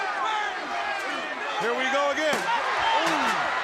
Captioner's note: crowd chatter